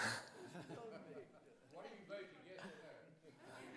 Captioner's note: laughter